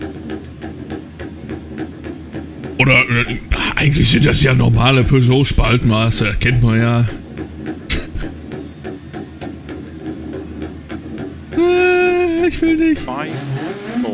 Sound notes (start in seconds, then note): 7.9 laughs; 11.5 whining